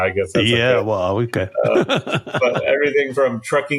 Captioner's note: laughing